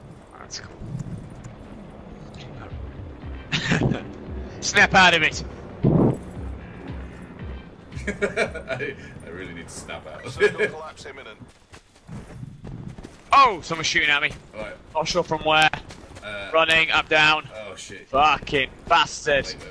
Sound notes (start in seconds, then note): 3.2 laughs; 7.9 laughs gleefully